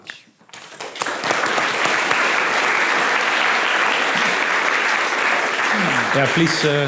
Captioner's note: applause